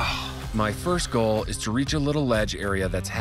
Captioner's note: grunts